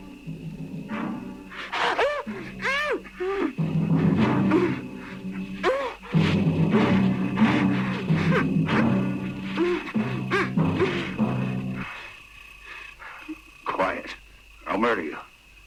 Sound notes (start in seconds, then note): 0.2 tense music continues; 1.8 Carol grunting; 12.2 insects chirring